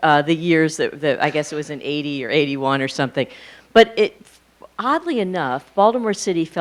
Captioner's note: none